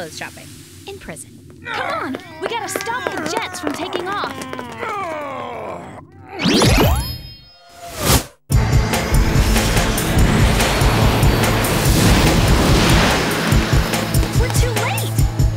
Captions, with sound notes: Looks like somebody's going to be doing some new clothes shopping... In prison! -[men groaning] -Come on! We've got to stop the jets from taking off!